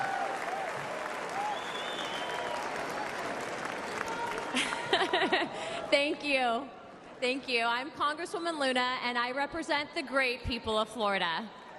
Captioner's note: applause